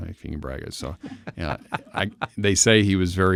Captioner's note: laughing